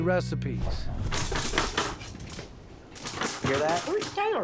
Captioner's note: rustling sounds offscreen